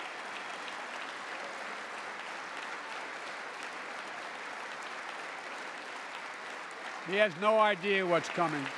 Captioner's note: applause